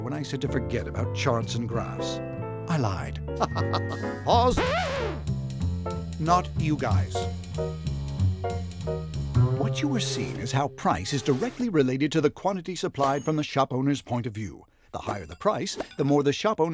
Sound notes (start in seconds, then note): 3.4 laughs; 4.5 record scratching